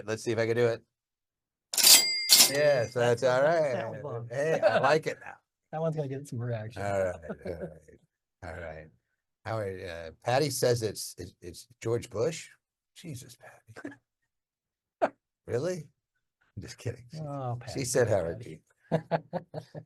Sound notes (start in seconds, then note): 1.7 till chiming; 18.9 laughing